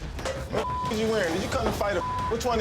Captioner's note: beep